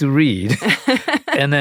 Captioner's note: laughter